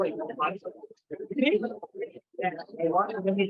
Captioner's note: chatter